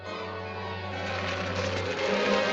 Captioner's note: crackling